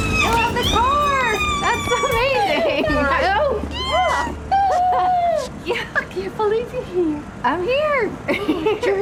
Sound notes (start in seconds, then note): 0.0 ellie squealing